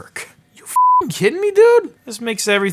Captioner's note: beeping